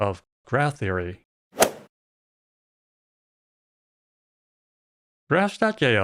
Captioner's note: golf ball hit sound